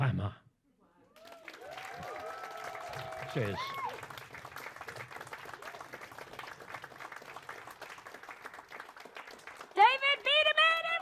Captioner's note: applause